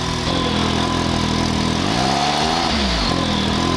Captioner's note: engine revs